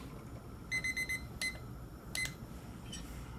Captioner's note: timer beeps